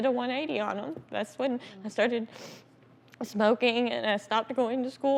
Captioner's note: sniffles